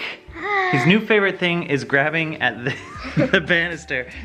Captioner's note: laughs